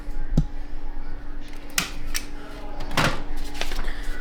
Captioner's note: door Clicking